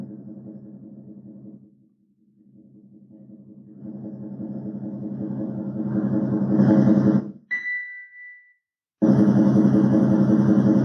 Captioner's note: fan sound